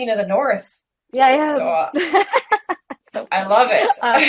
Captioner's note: laughs